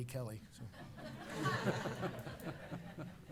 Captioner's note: laughter